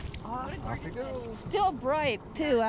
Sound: fish splashing

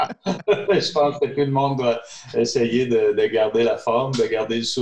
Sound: both laughing; speaking in French

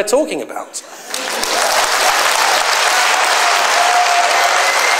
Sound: applause

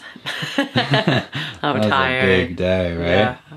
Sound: laughing

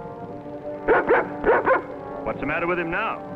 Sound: barks

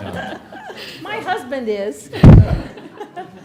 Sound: laughter

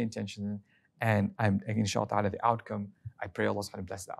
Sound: speaking Arabic

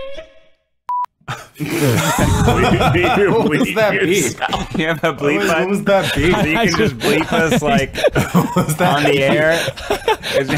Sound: guys laugh

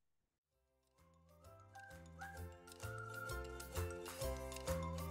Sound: additional joyful whistling

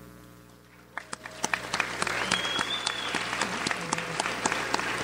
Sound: audience applauds

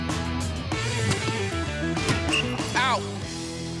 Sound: blows whistle

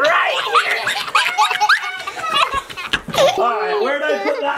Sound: children laughing

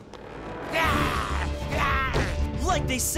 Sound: evil growl

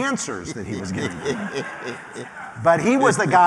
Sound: laughter

